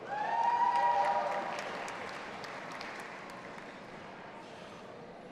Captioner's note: audience applauding and cheering